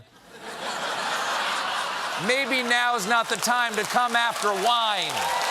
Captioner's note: laughter; applause